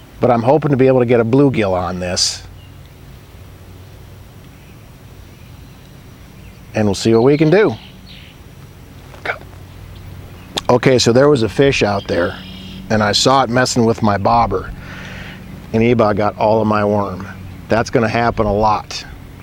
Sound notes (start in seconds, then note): 3.0 nature sounds; 8.5 nature sounds